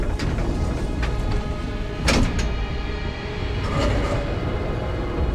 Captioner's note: elevator clanks